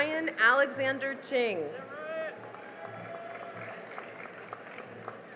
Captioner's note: cheering and applause